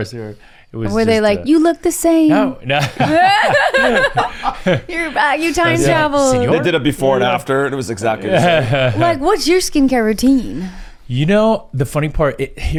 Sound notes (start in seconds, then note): 2.4 laughs; 2.7 laughing; 8.2 laughs